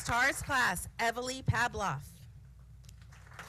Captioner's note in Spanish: aplausos